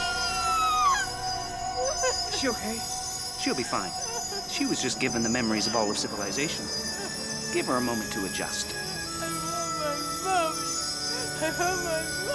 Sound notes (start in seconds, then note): 0.0 sobbing